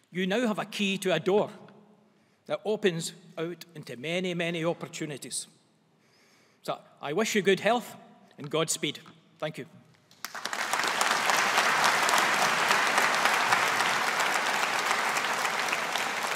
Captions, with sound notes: You now have a key to a door that opens out into many, many opportunities. So I wish you good health and God speed. Thank you. (AUDIENCE APPLAUDING)